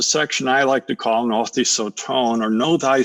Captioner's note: speaking in foreign language